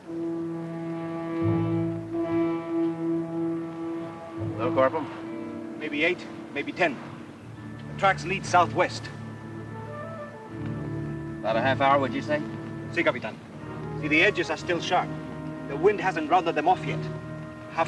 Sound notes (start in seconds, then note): 0.2 moody orchestral music; 13.1 Ramirez speaks Spanish